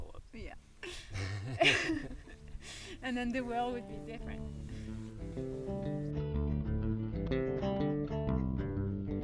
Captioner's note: laughs